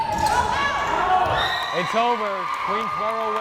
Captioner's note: crowd cheering